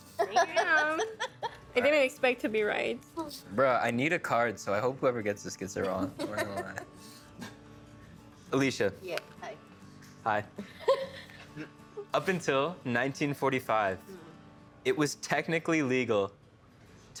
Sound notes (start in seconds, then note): 10.6 laughing